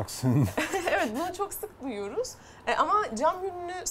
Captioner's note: chuckling